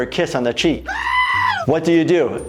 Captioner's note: person screaming